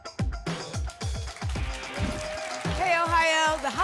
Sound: applause and cheering

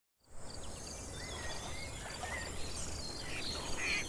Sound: nature sounds

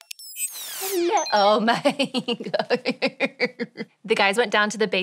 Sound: chuckles

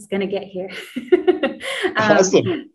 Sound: laughs

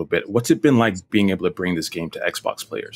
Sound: none

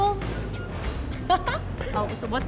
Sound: laughing

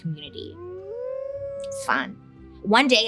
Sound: wolf howling

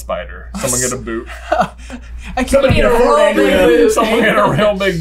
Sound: laughter

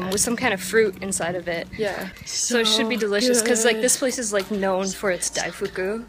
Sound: chanting “sooo good” in the background

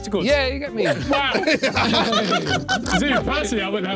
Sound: everyone laughing

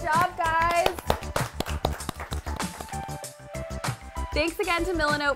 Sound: crowd clapping

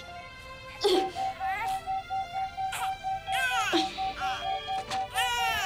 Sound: machines beeping

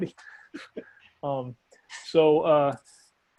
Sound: chuckles

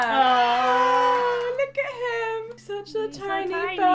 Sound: applauding and cheering SFX

